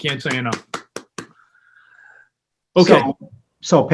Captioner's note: members of the board clapping